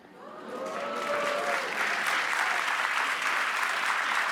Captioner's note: applause